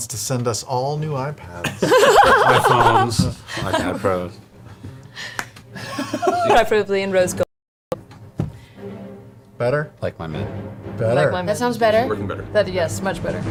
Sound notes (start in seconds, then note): 1.7 all laugh